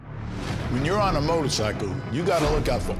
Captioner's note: voiceover